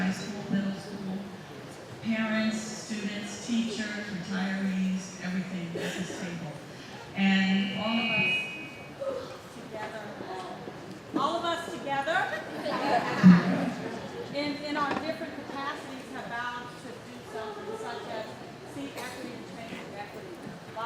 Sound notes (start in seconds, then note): 12.3 laughing